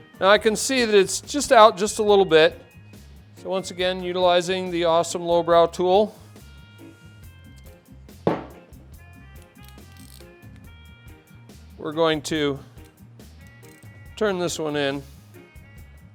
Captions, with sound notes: Now I can see that it's just out, just a little bit. So once again, utilizing the awesome Lowbrow tool. (tool hits table) We're going to turn this one in.